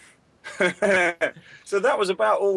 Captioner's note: laughter